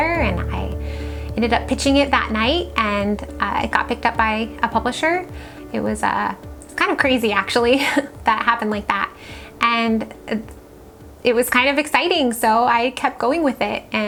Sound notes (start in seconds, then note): 7.5 laughs